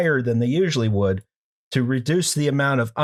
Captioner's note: none